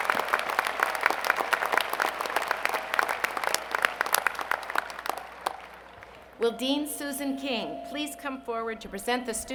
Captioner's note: applause